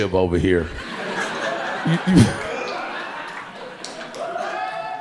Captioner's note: audience laughing